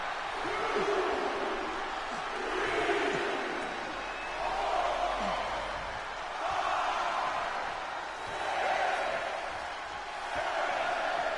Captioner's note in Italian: Applauso